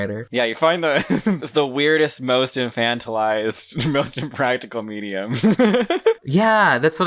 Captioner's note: laughs